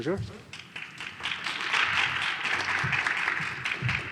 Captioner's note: applause